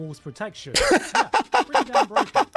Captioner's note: laughter